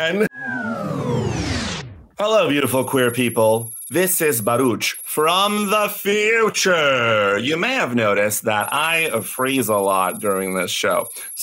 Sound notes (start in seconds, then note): 0.1 time pause sound effect; 2.5 sci fi computer typing sound